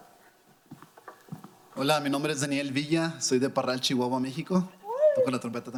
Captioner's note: speaking in foreign language